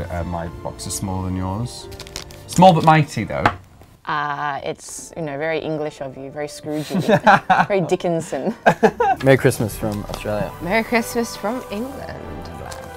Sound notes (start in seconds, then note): 6.7 laughing